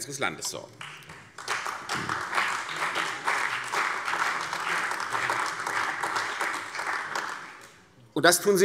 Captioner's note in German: Beifall CDU, vereinzelt BÜNDNIS 90/DIE GRÜNEN und AfD